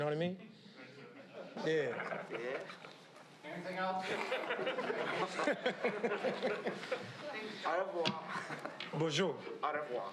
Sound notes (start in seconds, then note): 1.6 crowd laughs; 4.1 laughing